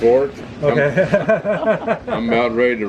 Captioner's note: laughter